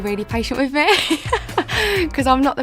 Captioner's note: laughing